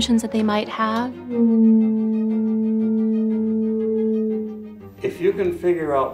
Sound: blow horn sound

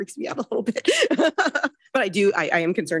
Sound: laughs

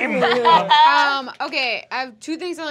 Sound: Adaine laughs

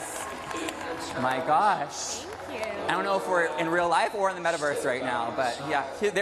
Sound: cheers and applause

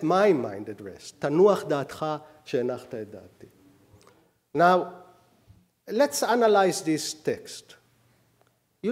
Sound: speaking hebrew

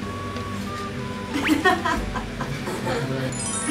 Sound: cracking up

